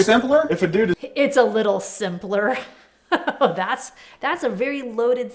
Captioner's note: laughs